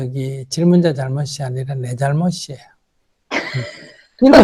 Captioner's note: questioner Laughter